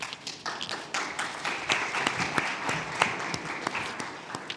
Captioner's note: audience clapping